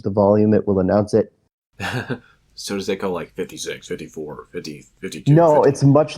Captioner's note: laughs